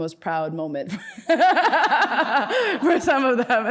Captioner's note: laughs